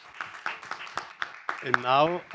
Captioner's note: audience applauding